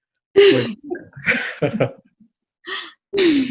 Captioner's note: laughing